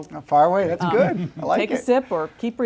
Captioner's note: laugh